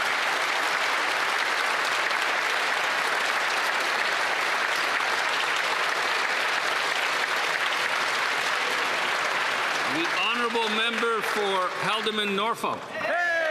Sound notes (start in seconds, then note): 0.0 some Applause; 0.9 speaking French